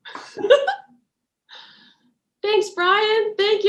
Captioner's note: laughs